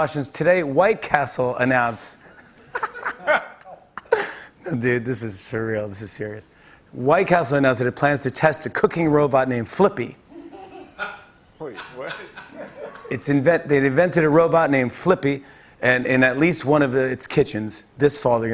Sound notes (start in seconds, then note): 2.4 laughter; 10.3 light laughter